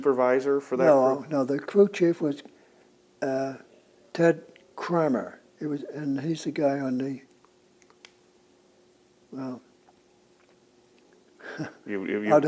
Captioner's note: laughs